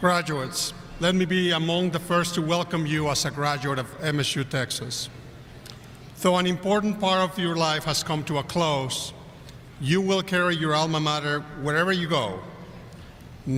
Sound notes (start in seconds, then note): none